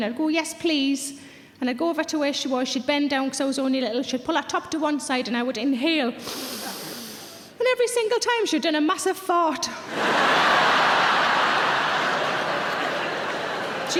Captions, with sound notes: And I go, "Yes please." And I go over to where she was she'd bend down cause I was only little, she'd pull her top to one side and I would inhale. (Sarah deeply inhales) And every single time she'd done a massive fart. (audience laughing)